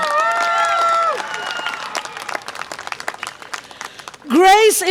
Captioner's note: audience applause and cheer